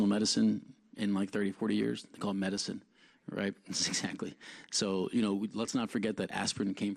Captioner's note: laughs